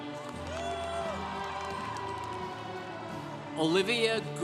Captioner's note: congregation cheering